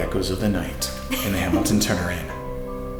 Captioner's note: laughs